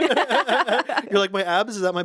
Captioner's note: laugh